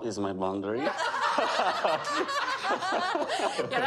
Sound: laughter

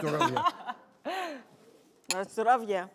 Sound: laughing

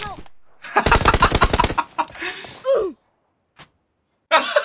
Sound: laughing; hard laughing

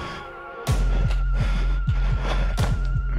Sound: panting

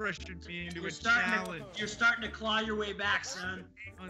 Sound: laugh

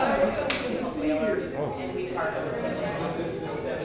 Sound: participants continue chattering; light clicks

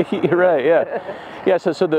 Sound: chuckling

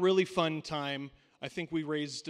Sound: none

